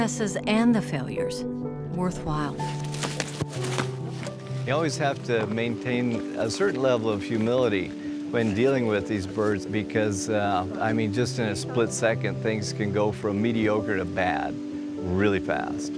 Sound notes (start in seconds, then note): 3.5 wings flapping